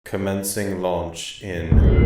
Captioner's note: voiceover